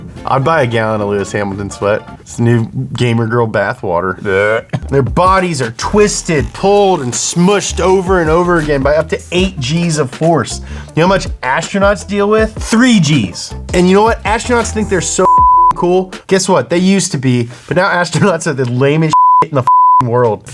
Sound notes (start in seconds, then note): 15.2 beep; 19.1 beep